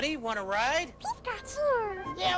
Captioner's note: pikachu noises